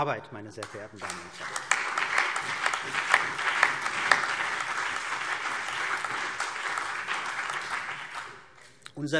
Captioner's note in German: Beifall CDU, BÜNDNIS 90/DIE GRÜNEN und auf der Regierungsbank